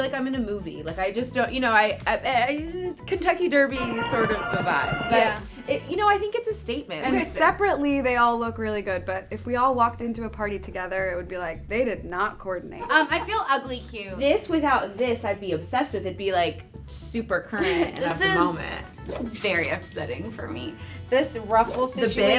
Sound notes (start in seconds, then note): 12.8 laughs